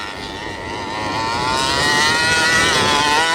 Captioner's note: motor revving